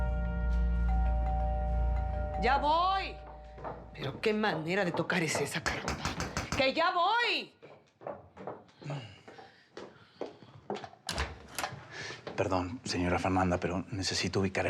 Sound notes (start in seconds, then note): 6.0 toques en la puerta